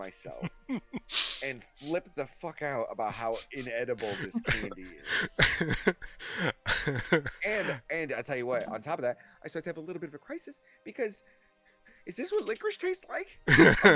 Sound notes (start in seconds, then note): 3.1 laughing